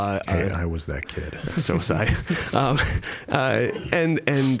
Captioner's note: chuckling; both laughing